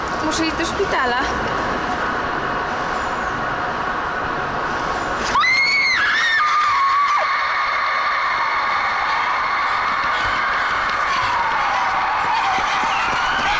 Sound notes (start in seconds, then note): 5.3 screams; 9.9 siren wailing in distance